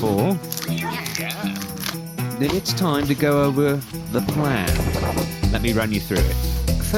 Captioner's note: chorus of “yeahs” from the gang; paper unfurling